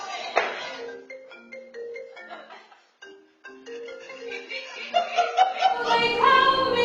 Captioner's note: audience laughs; phone rings